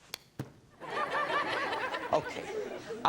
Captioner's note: audience laughs